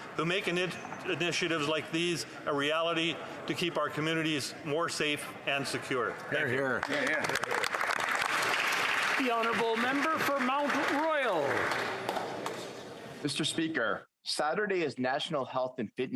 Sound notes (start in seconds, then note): 11.4 applause